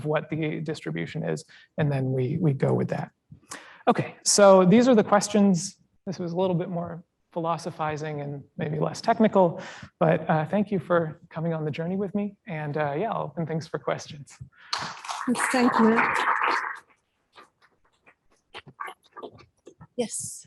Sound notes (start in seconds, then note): 14.7 applause